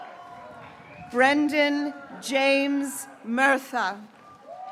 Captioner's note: graduates cheering